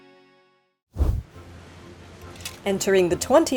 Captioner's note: sheet whooshes